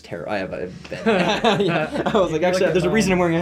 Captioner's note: laughs